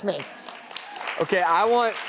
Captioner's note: crowd applauds